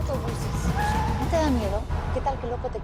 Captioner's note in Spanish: Chirrido de gomas